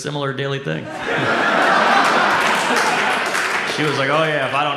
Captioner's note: audience laughs